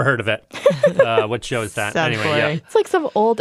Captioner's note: laughs